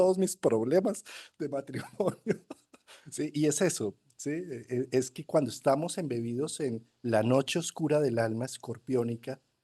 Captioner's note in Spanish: risas